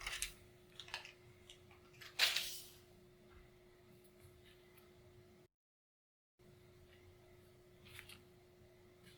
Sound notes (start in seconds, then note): 5.2 silence